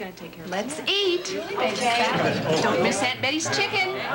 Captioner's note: indistinct dinner table conversation